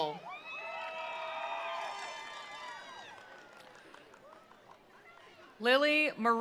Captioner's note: attendees cheering; attendees applauding